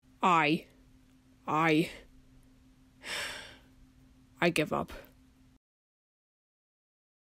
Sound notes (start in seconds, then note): 3.0 sighs